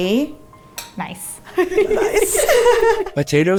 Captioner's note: laughing